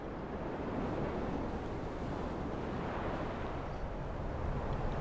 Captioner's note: waves crashing continues